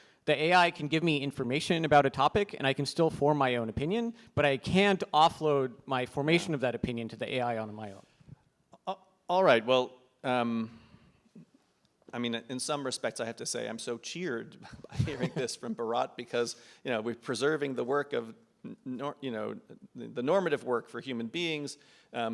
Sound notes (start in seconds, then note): 14.6 laughs